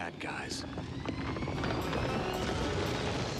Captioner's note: rumbling